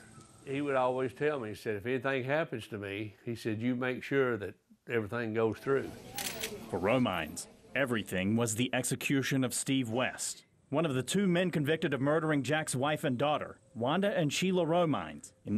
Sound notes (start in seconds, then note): 6.1 camera shutter